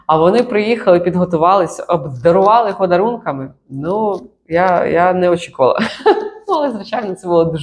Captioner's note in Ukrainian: сміх